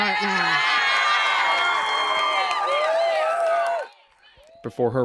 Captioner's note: crowd cheers